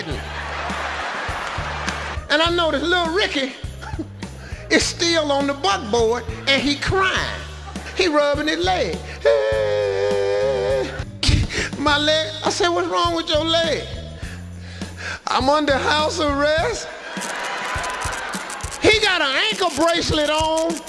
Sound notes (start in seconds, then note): 0.0 audience laughing; 9.3 crying; 16.9 audience laughing